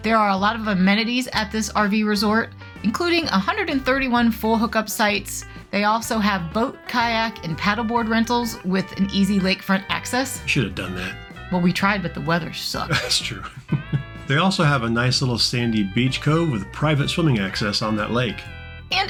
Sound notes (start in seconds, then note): 12.8 chuckling